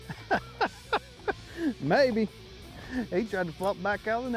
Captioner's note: laughs